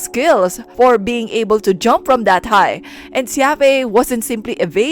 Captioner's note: none